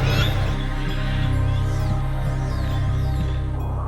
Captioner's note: beeping